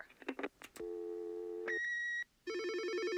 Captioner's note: phone ringing